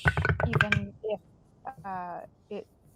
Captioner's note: dice rolling